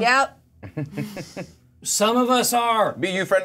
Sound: co-hosts laughing

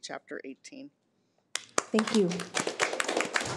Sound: audience applauding

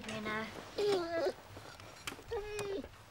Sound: dog whines

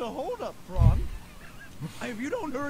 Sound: snickering

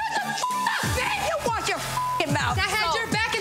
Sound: beep

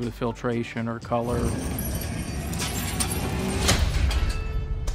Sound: keys jangling

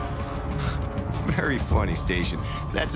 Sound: laughs

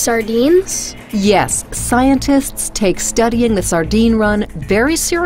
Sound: voiceover

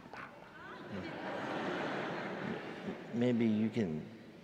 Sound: audience laughing

